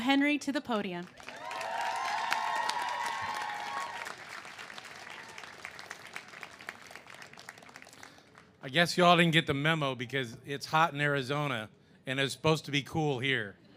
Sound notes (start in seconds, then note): 1.1 cheers and applause